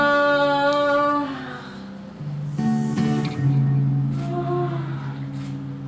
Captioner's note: moaning; soft music